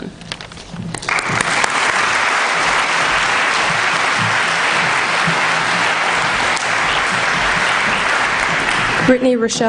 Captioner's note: applause